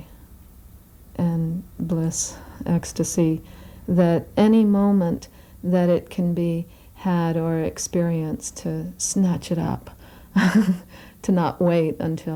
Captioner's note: laughs